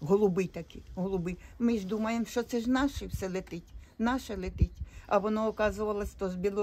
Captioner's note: Ukrainian